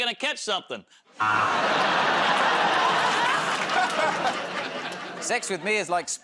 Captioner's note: laughter, buzzer